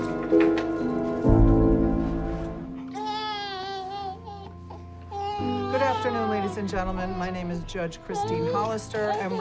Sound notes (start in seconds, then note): 2.8 baby cries